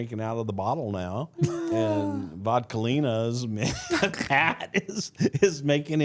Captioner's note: laughs